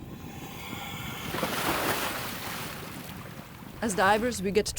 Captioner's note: water splashes